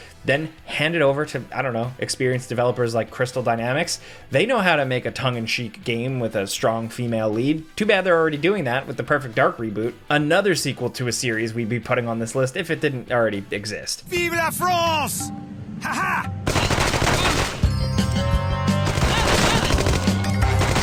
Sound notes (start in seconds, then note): 15.9 laughs; 16.4 guns blasting; 17.1 lively upbeat music